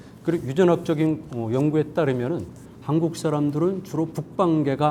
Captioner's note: speaking in Korean